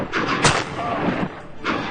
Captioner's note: gunshots